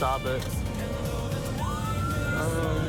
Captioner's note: siren blaring